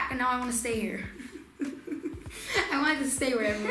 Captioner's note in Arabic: يضحك